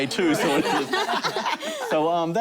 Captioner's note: laughter